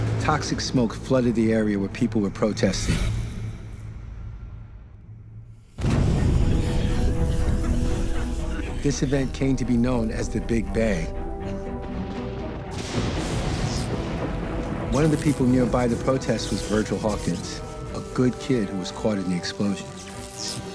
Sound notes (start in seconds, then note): 6.8 people coughing; 12.3 thunder striking; 14.8 electricity zapping